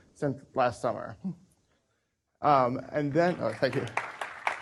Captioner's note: applause